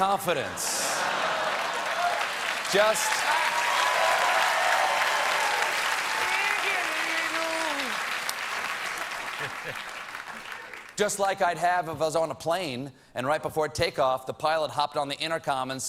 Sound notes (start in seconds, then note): 1.0 applause; 2.0 laughter